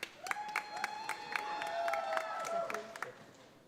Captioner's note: audience applauding